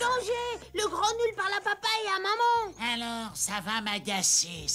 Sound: singsong voice

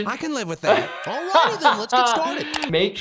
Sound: laughs

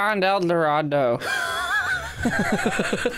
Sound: wheezes

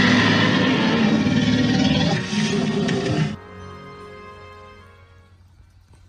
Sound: roaring Dinosaur in the distance

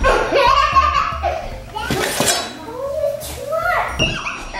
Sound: laughing

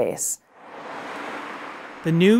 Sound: car whooshing

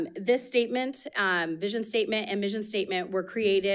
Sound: none

